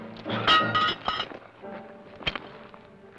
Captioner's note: pan clangs